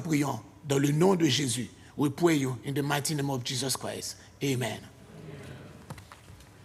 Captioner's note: speaking foreign language